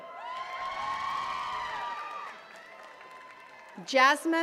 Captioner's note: attendees cheering and clapping